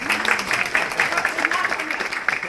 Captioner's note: applause